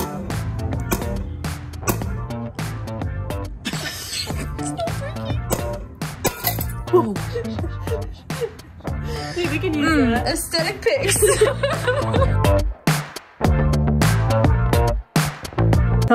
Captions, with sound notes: (upbeat music) - It's not working. (glass shattering) - We can use that. - Um, aesthetic pics. (laughter) (upbeat music)